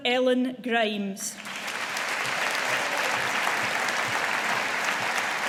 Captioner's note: audience applauding